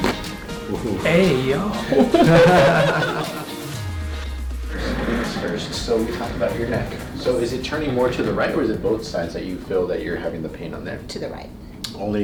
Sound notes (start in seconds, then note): 0.0 cracking; 1.7 laughs; 1.8 chiropractor laughs; 4.5 chair scraping floor loudly